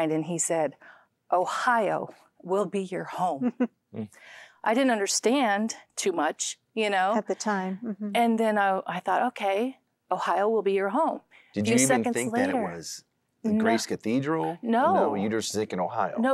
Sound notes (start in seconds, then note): 3.4 giggling; 4.0 nnnh